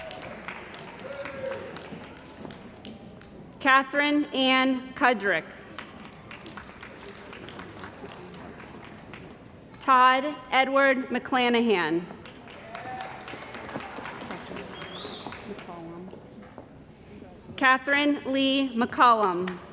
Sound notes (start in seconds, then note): 0.0 cheering & Applause; 5.7 applause; 12.4 cheering & Applause